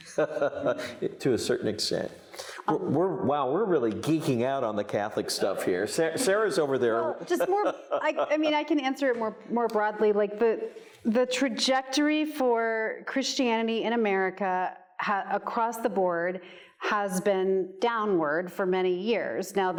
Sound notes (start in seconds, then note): 0.0 laughs; 7.2 laughs